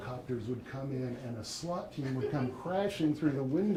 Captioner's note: audience laughing